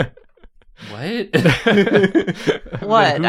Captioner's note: laughter